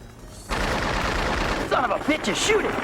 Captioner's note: gunshots popping